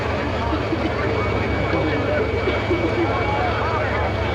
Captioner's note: crowd chatters